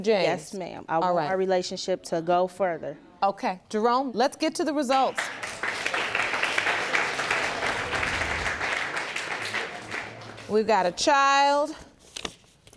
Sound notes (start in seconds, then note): 5.1 audience applauds